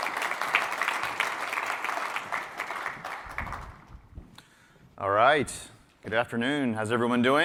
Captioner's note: applause